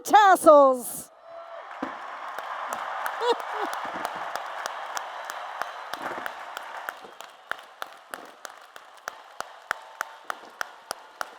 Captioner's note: applause and Cheers